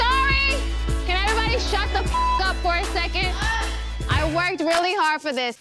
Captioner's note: beep